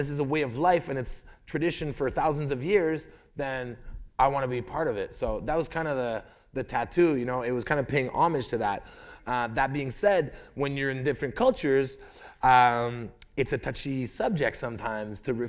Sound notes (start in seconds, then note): none